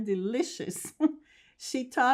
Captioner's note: laughing